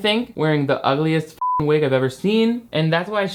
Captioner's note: beep